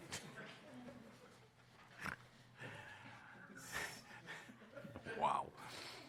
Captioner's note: laughter